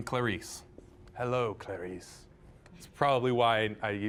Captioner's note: mimicking Anthony Hopkins